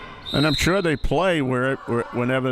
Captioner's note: whistle chirping